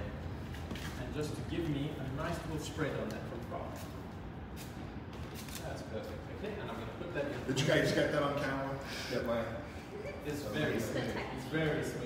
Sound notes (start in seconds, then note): 4.0 spraycan spraying; 9.5 chuckling